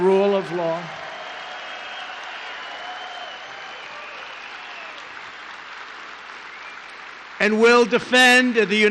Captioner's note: applause